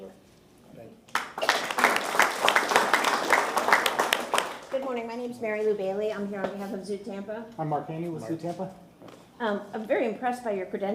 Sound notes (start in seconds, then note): 5.1 applause